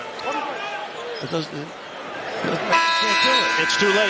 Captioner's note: buzzer